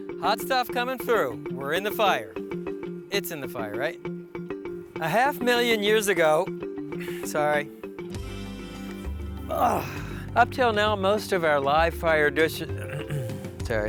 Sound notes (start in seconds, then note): 9.5 groaning; 12.7 clearing throat